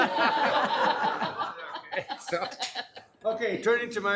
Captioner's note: room laughing